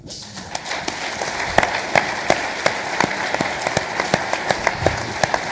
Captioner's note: audience applauding